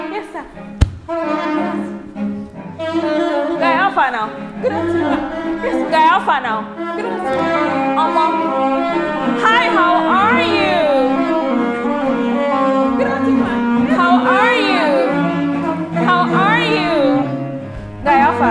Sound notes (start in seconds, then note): 5.4 returns to switching between English and Nigerian Pidgin English